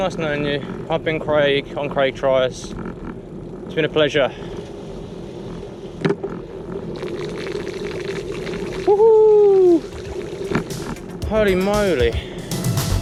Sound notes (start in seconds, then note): 7.4 water splashes